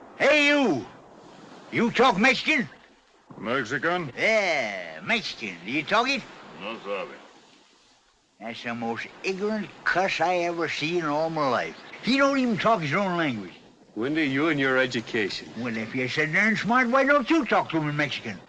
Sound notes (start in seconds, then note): 6.4 in spanish